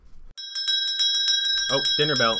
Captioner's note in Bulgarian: звъни звънец